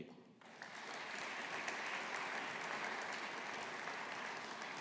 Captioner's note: audience applauding